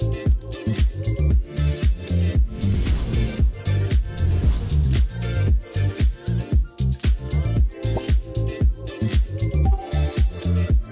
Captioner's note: tempo quickens; sound of typing; pop